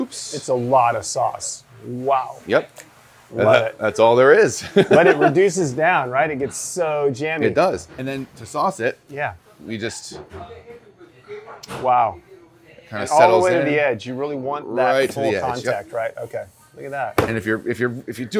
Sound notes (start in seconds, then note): 4.3 laughs